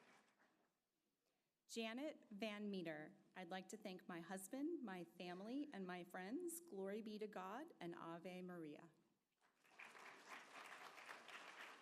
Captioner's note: applause